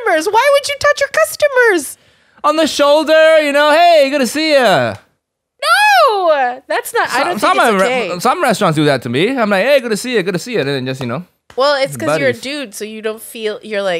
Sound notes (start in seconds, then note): 12.2 patting